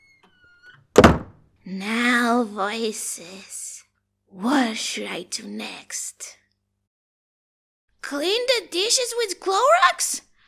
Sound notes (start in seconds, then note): 0.9 door slams shut